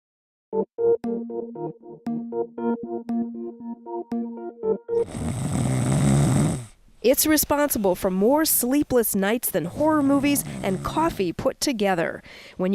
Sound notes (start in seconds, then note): 6.5 snoring